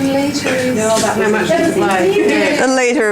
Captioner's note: audience chatter